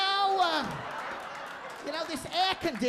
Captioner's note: audience laughing